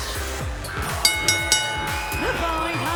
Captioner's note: bell ringing